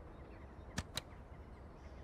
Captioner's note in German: Klicken